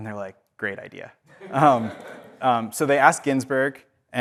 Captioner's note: audience laughs